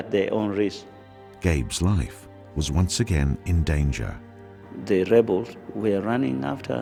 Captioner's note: voiceover